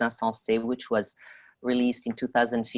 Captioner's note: speaking French